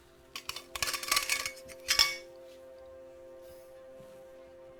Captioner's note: metallic rattling